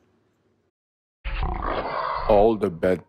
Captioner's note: growl